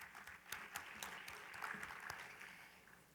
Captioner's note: applause